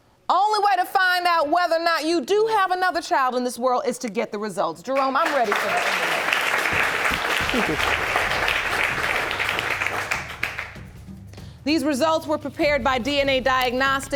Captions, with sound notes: Only way to find out whether or not you do have another child in this world is to get the results. Jerome, I'm ready for them. (AUDIENCE APPLAUDING) These results were prepared by DNA Diagnostics